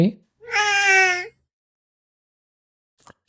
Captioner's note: meow